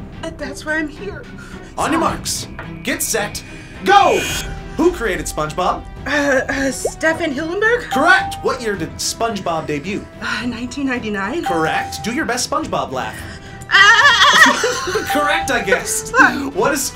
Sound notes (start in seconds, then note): 1.9 sighing; 7.9 electronic bell chimes; 11.4 electronic bell chimes; 15.1 electronic bell chimes